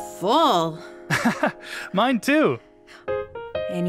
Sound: laughs

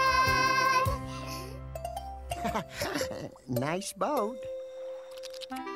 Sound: laughs

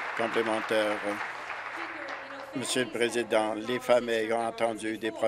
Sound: applause

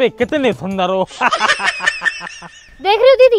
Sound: laughing

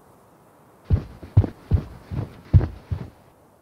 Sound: footsteps

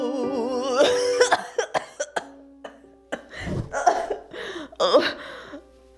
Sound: coughing fit

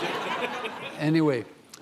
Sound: audience laughing

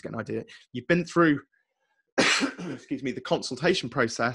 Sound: coughs

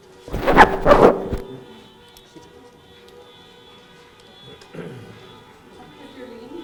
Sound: cars honking; microphone rumbling; cars honking; clears throat

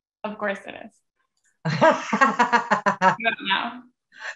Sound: laughing

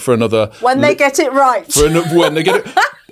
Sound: laughs

